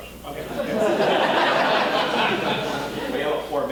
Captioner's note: audience laughing